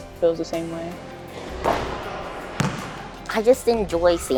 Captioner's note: air whooshing